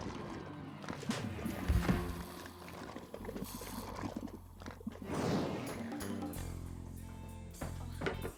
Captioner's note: suioctning sounds